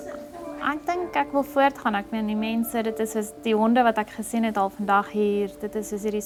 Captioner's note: speaking in foreign language